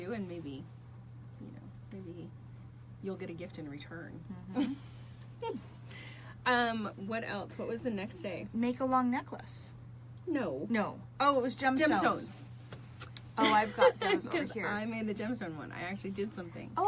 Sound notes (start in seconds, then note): 13.4 laughs